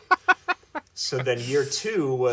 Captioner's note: amused chuckling